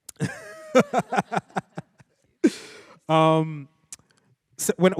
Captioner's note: participants laugh